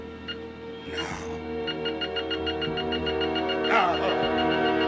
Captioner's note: beeping faster